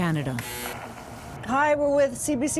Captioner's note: buzzes